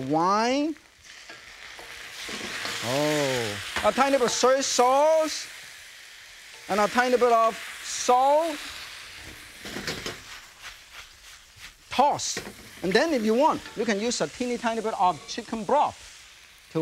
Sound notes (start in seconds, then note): 0.9 ingredients sizzling; 4.2 utensils clinking; 9.7 ingredients sizzling; 9.7 pan rattling